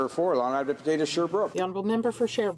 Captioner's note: speaking French